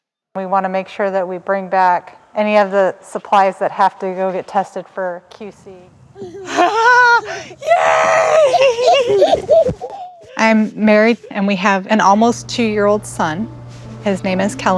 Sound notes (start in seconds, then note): 6.1 exclaiming; 6.1 child laughing